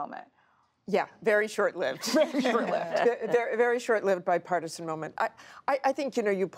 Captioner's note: laughter